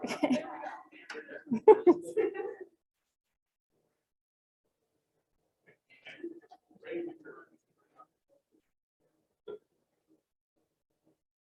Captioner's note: silence